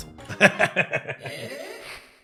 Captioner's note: laughs